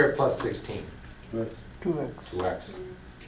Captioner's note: voiceover